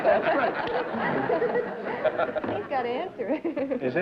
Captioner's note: laughter